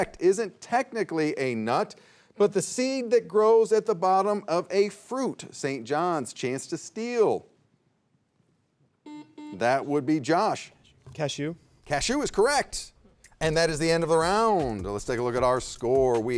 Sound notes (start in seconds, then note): 9.0 buzzer buzzing; 13.2 light music